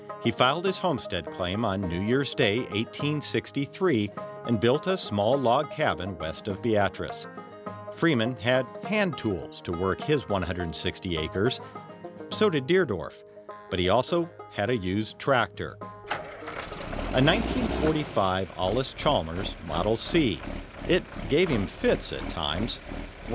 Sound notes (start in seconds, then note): 15.9 tractor starting up